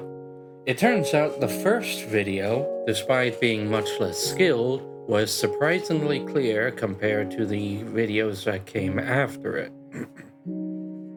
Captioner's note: cough cough